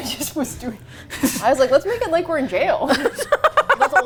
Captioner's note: laughs; both laugh